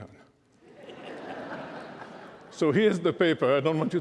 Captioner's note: laughter